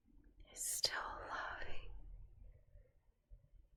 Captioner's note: whispers